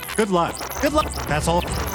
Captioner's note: rewind sound; fast forward sound